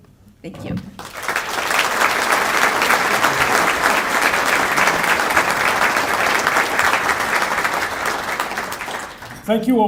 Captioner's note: applause